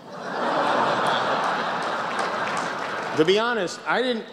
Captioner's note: laughter, applause